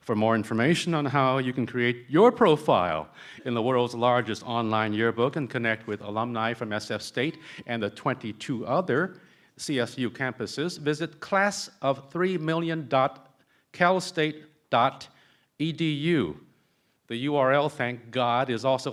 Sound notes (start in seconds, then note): none